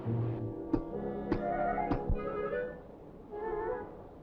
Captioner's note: blows